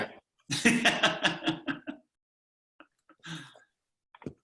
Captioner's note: laughing